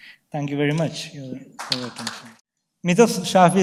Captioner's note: audience applauds